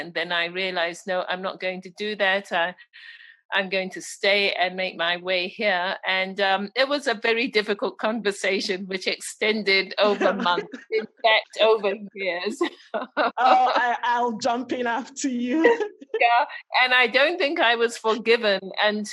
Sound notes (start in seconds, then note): 10.0 laughter; 12.9 laughs